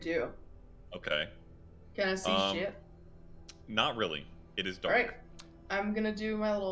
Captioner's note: curious Noises